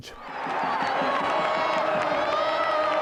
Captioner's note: fans cheering; fans clapping